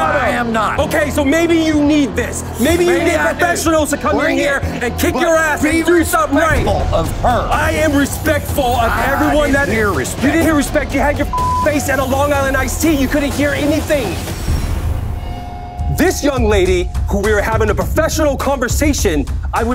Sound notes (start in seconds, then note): 11.3 beeps